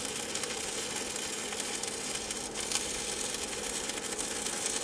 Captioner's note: welder sputtering